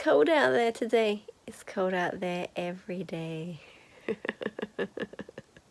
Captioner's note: laughing